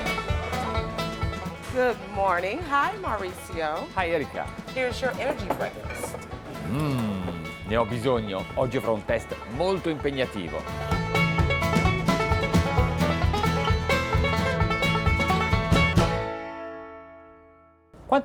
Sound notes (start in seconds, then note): 6.4 voiceover; 12.5 upbeat bluegrass music